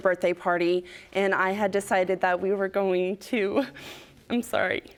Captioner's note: voice breaking